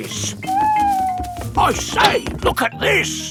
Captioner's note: owl hooting